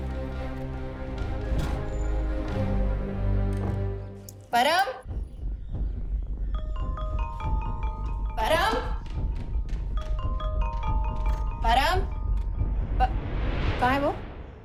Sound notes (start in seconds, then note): 1.0 door opens; 11.5 door opens